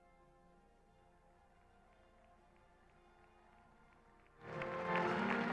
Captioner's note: audience applauding